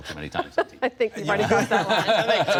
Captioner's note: laughter